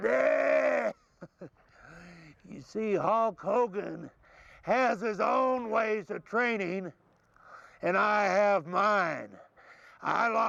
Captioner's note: laugh